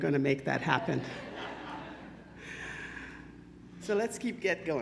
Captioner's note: attendees chuckle